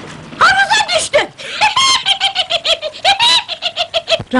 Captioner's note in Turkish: tavuk sesi̇yle gülmektedi̇r